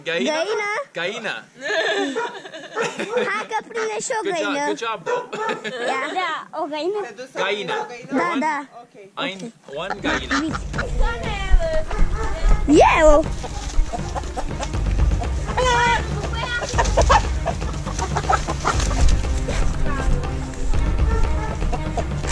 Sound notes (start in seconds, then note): 0.1 speaking Romanian; 6.0 speaking Romanian; 11.8 dog barking; 13.0 speaking Romanian; 14.6 chickens clucking; 19.6 intense music